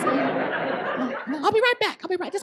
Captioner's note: audience laughs